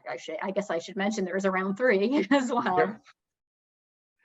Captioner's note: laughs